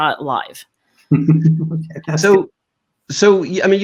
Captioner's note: chuckles